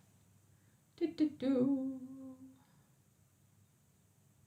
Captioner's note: humming